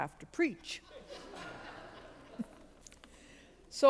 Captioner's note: congregation laughs